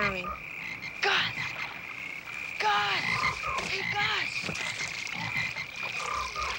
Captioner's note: frogs croaking